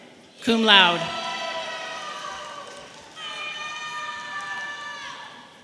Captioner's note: audience applauding and cheering